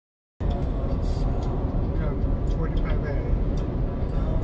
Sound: cars acclerating

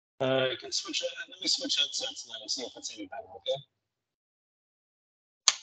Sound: voice muffling

